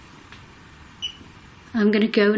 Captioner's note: beep